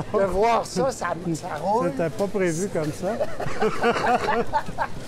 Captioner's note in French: rires